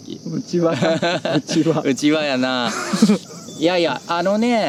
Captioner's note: laughs